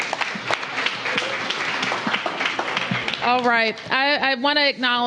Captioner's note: applause